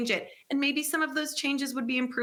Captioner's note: none